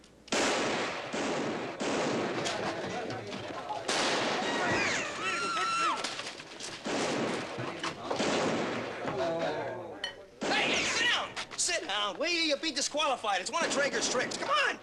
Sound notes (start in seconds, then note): 0.3 gunshots continue; 4.4 people clamoring, woman screams; 6.6 gunshots continue